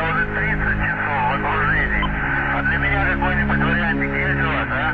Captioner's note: wartime radio chatter